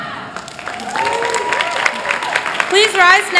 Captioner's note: applause